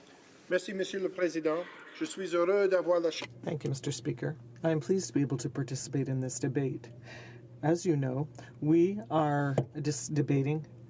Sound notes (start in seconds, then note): 3.6 speaking in French